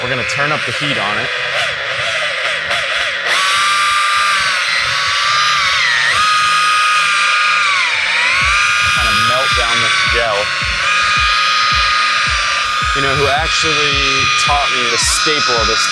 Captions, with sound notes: we're gonna turn up the heat on it. (machine engine revving) Kinda melt down the gel. You know who actually taught me to skateboard,